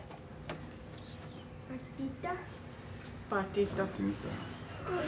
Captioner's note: speaking Lakota; speaking English